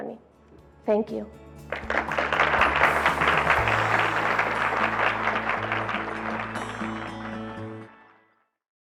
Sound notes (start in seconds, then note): 0.2 gentle music; 1.6 audience applaud